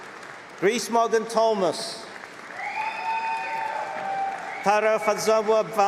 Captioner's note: cheering